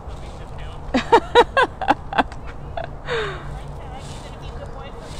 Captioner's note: laughter